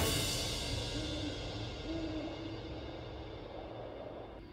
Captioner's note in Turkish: Baykuş sesi